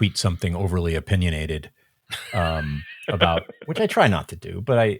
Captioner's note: laughing